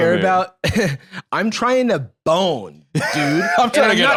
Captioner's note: laughs